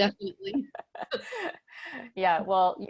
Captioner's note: laughter